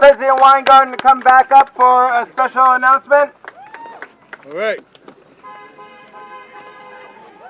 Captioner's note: cheering